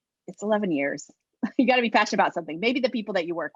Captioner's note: laugh